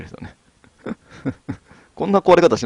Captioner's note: laughs